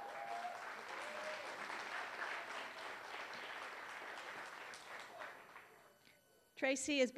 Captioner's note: applause